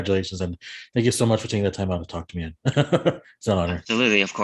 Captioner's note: laughs